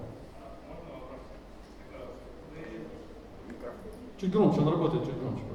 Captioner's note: speaking in foreign language